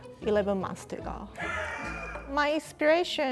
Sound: producer laughs

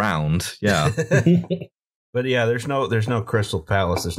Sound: laughter

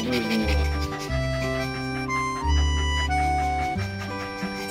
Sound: haha

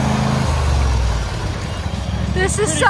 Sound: engine stops

